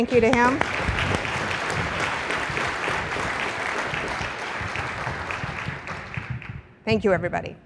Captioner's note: applause